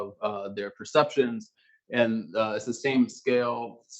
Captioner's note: male Voice